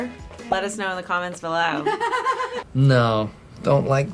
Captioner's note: laughs